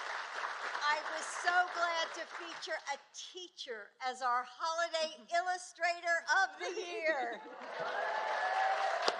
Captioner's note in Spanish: Aplausos